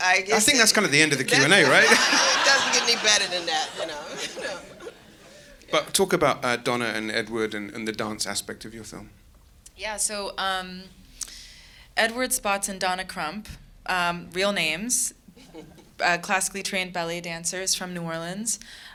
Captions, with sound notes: I guess-- - I think that's kinda the end of the Q&A, right? (audience laughing) - It doesn't get any better than that, no. - But talk about Donna and Edward and the dance aspect of your film. - Yeah, so Edward Spots and Donna Crump, real names, classically trained ballet dancers from New Orleans.